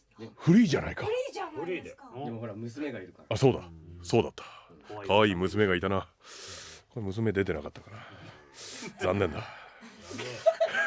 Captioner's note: laughs